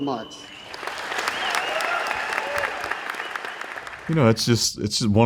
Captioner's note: audience applauding